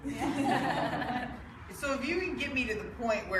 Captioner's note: laughing